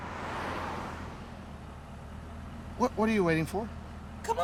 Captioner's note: traffic speeding